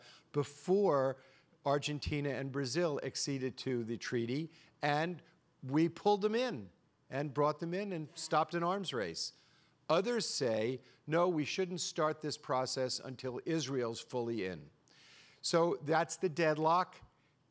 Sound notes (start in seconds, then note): none